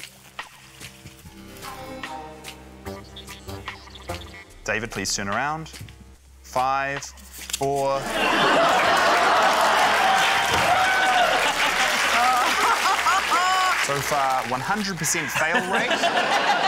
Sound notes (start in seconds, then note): 8.0 laughter; 10.1 cheering, applause; 15.2 laughter